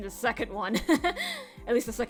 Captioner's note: chuckle an inhale